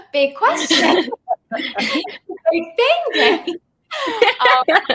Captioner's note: laughs